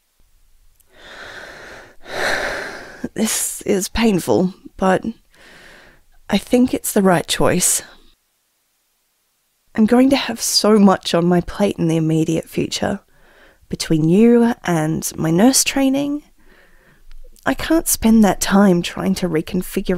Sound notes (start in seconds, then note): 1.0 sigh